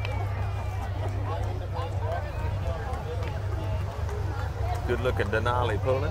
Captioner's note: revving and chattering continue